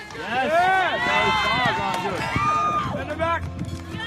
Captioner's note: cheering